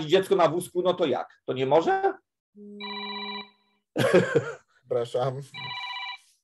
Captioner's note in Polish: Dzwoni telefon